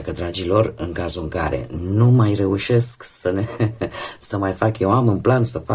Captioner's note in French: haha